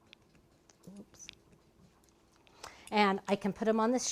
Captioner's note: muttered